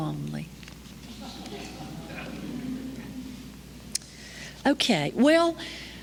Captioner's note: laughter